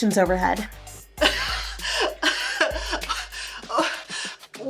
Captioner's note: Suzy laughs, gasping